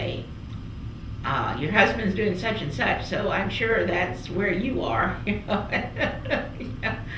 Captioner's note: laughs